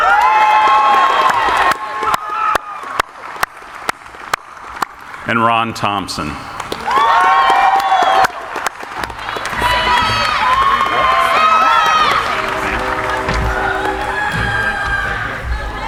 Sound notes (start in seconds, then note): 0.0 cheering; 0.1 audience applauding; 6.5 cheering; 6.8 audience applauding